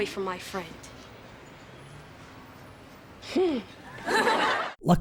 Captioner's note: awkward silence; audience laughter